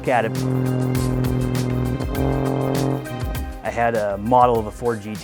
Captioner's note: engine roaring